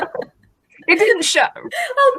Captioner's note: laughs